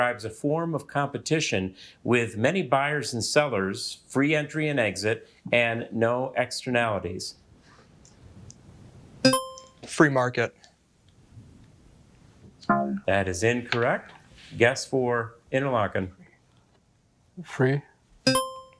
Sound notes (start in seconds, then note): 9.3 buzzer ringing; 12.9 buzzer beeping